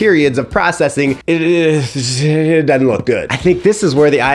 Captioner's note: groaning